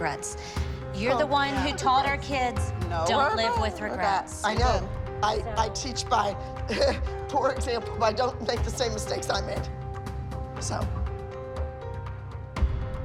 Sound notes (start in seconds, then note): 6.6 chuckles